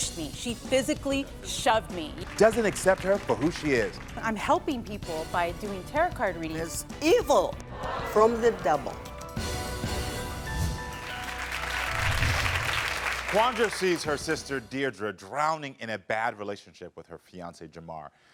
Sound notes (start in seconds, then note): 7.7 audience reacting; 9.3 dramatic music; 10.9 audience clapping